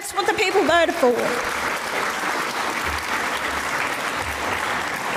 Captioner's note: audience applauds